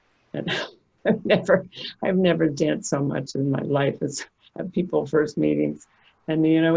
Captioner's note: laughing